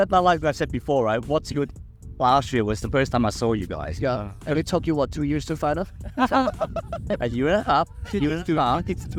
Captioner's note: haha